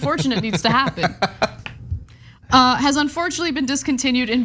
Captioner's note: laugh